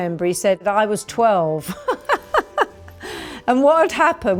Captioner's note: laughs